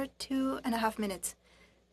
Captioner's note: speaking in French